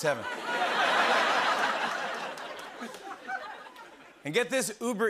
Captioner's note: laughter